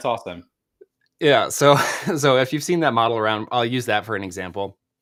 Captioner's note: chuckles